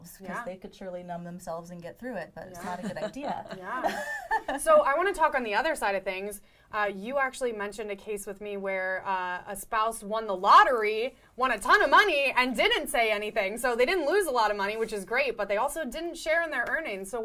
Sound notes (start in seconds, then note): 4.9 chuckling